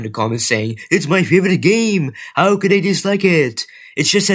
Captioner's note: in a soyboy accent